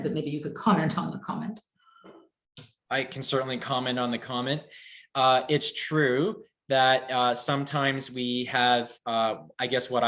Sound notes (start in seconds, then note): none